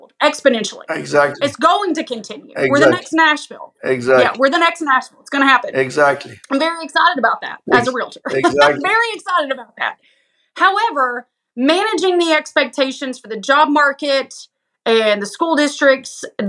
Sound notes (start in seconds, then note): 7.6 laugh